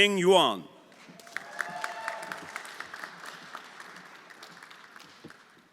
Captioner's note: everyone applauding